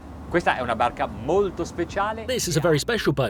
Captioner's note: man speaking in foreign language